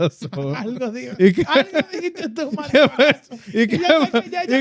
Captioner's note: speaking Foreign Language